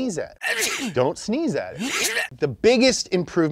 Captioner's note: sneezes